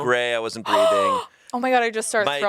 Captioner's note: Anna gasps